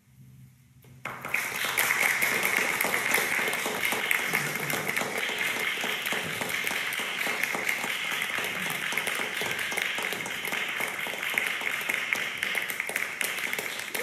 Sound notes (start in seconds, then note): 1.0 audience applause